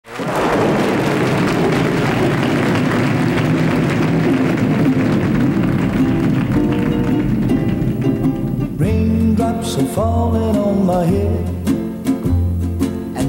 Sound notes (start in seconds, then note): 0.9 audience applauding and thunder rolling; 5.8 light guitar music